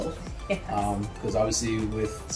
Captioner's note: laughing